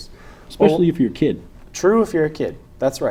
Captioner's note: boink